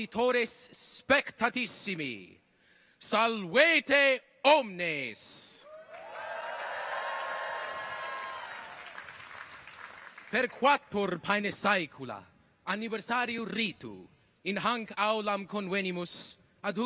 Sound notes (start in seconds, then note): 5.6 people cheer; 5.8 audience applauds